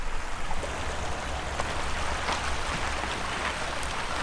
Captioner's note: water rushing